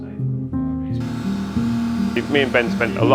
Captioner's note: chattering; power tools drilling